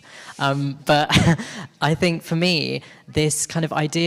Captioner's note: chuckles